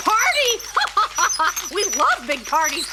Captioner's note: laughs